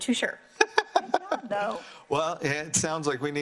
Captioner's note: laughs